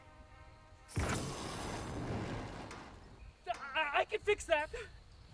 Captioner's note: fire crackling